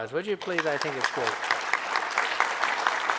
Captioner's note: applause